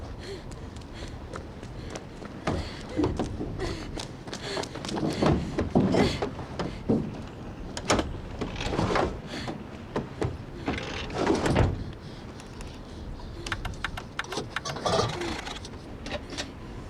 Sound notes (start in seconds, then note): 14.1 engine sputtering